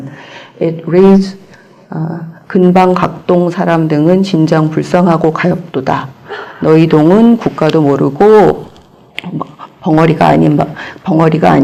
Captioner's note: korean